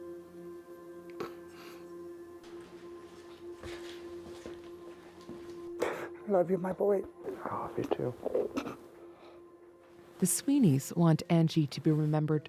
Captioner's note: crying